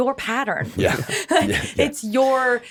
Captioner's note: chuckles